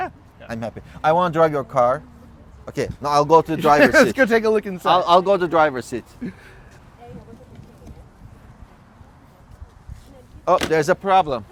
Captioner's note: güler